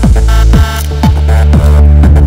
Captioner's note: Cameras clicking